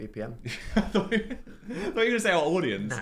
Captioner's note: Phil laughing